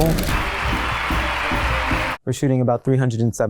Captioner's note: crowd cheers; marching band plays